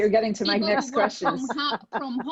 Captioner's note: laughing